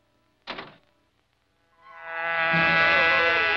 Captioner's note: car door slams